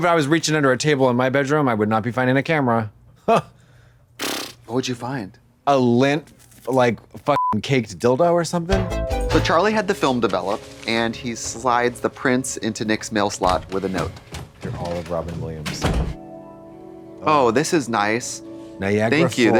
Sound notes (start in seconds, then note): 7.4 beep; 8.7 synth bop